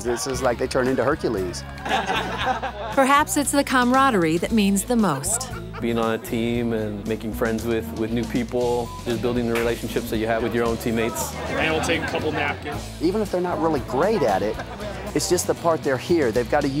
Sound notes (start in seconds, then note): 1.7 laughter